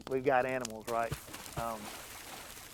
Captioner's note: water splashes